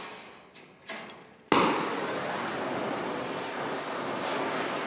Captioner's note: hissing of the Bunsen burner